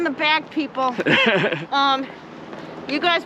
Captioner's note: laughs